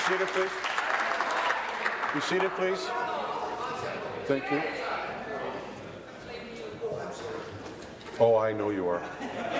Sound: applause

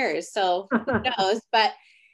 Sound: laughs

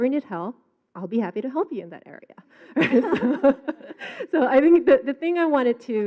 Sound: laughs

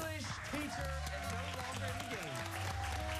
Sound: cheers and applause

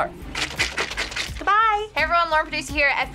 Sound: toy squishes

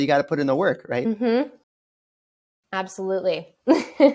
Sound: laughs

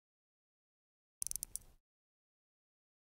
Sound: sound of clock knob

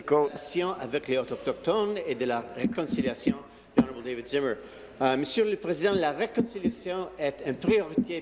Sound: speaking in French

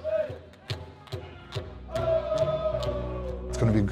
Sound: crowd stomping and shouting

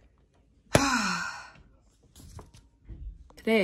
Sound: sighing

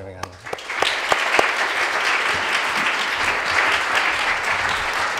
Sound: audience applauding

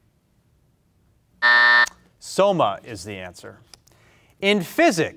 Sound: buzzer buzzes

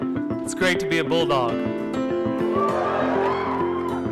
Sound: cheers

